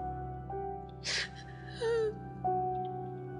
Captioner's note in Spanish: sollozos